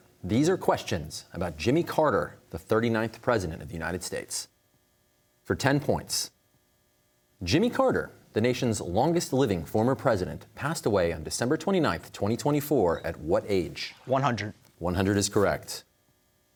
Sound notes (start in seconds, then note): none